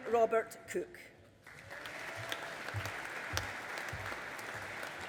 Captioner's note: audience applauding